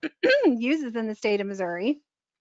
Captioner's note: clearing throat